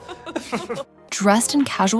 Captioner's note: fancy laughing